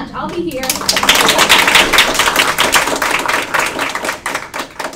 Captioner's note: applause